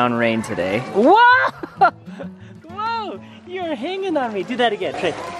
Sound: laughs

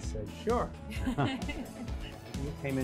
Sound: laughing

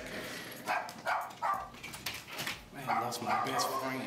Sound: dog barking

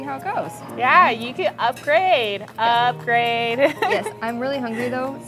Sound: laughs

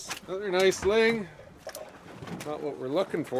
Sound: chuckling

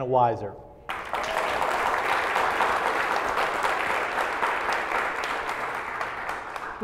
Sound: applause

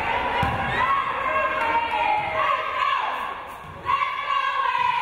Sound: crowd

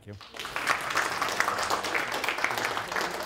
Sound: applause

